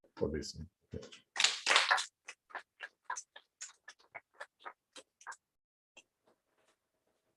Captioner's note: applause